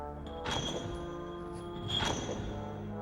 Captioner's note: chain rattles twice